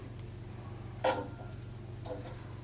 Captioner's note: clank